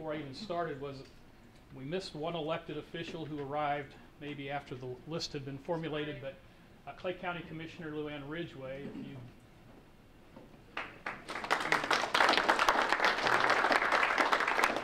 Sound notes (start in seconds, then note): 10.7 applause